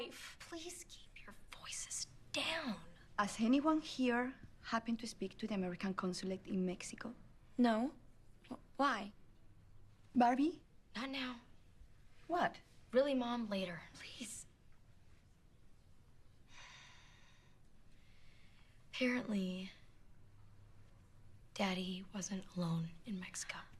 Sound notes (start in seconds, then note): 16.2 sighs